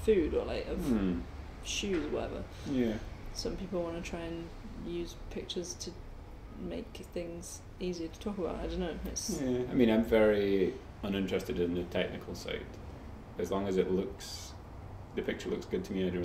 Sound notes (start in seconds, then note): none